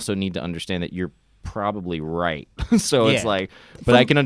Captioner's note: chuckles